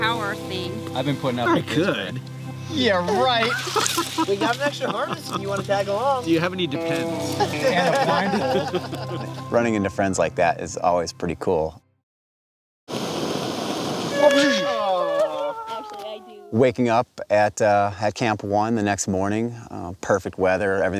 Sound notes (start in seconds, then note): 7.3 laughter